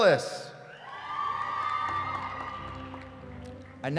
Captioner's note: cheering